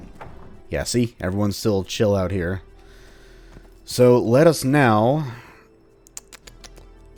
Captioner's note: thinking sounds